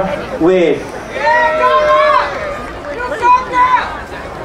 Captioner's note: crowd cheering